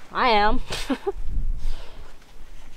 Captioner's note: laughing